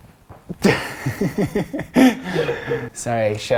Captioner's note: laughing